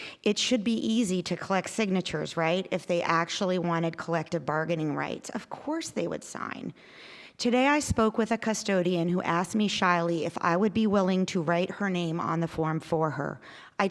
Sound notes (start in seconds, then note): none